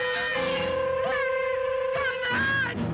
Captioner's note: shouting